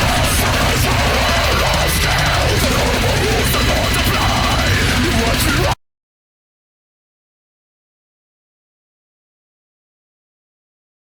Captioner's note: groaning